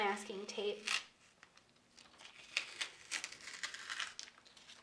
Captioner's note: masking tape rustling